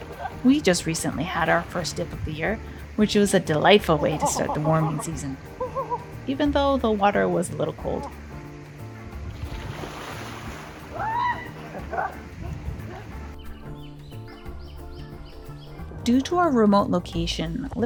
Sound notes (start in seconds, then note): 10.8 screaming in cold water